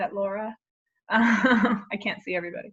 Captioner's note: laughs